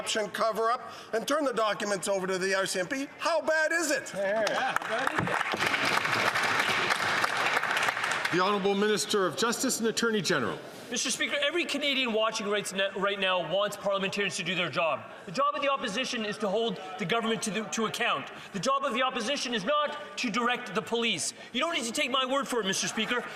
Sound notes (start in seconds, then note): 9.6 some Applause